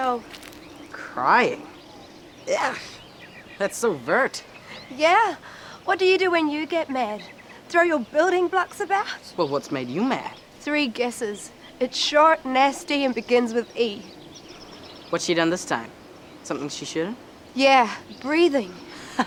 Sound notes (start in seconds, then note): 2.4 scoffs